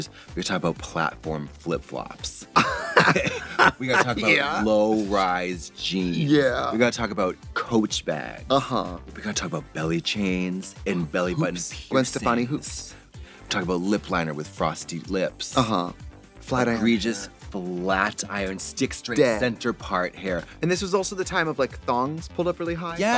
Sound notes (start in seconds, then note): 2.5 Trixie laughs